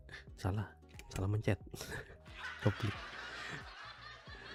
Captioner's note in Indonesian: tertawa